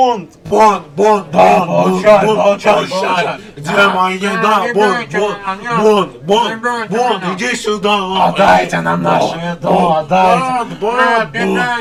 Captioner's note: prisoners are rioting